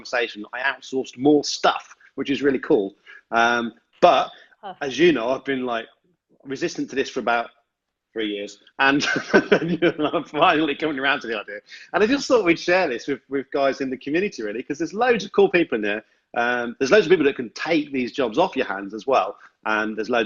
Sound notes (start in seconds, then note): 8.9 laughs